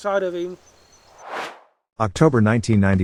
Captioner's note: air swooshes